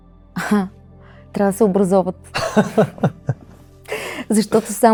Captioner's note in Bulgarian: смях